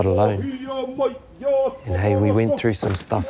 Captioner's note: group chanting in Māori